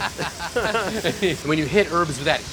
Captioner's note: laughing